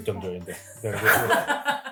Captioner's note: laughing